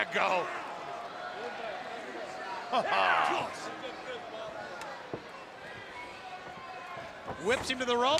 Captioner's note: crowd chatter